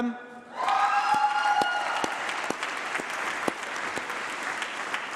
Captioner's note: applause